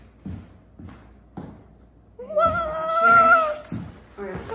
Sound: heels thud

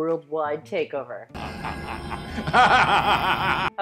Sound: evil laughing

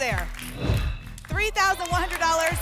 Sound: whoosh

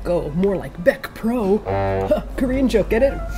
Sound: low-comedy honk

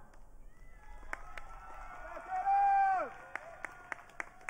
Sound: audience cheering

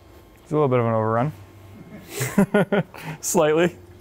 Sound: laughing

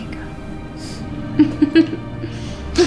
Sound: emma giggles

